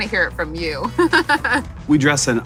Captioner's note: laughing